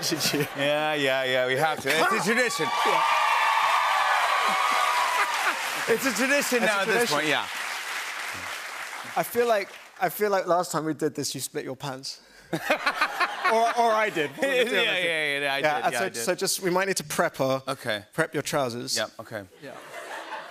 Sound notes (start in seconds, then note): 1.9 cheers and applause; 12.5 laughter